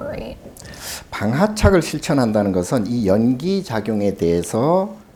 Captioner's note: speaking Korean